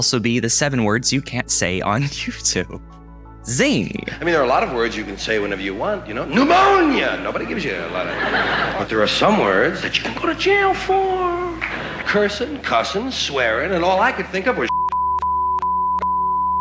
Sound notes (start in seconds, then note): 7.4 crowd laughing; 14.7 beep